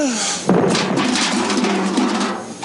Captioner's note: metal can rattling